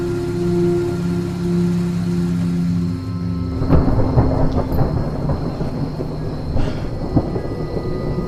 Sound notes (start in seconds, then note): 3.2 thunder cracking